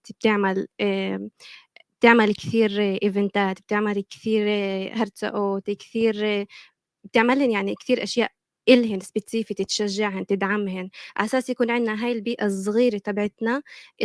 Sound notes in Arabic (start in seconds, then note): 4.8 لغة أجنبية; 7.7 لغة أجنبية